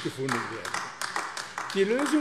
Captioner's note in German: Beifall AfD